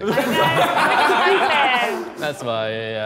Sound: Sidemen laughing

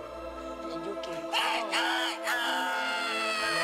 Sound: crowing

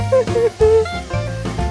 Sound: cries

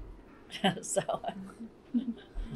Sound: laughter

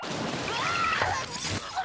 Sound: screaming

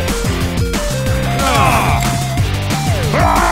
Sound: all groan; Peppino shouting

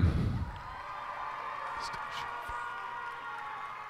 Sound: cheers and applause

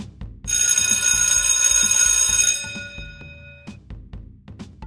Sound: bell ringing

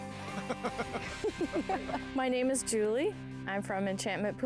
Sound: laughter

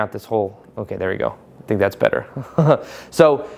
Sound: chuckles

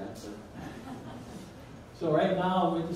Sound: audience laughs

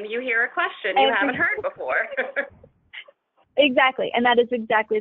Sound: chuckling

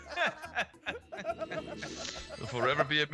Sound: laugh

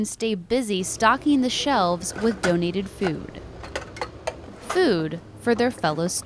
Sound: natural sound of cans clanking

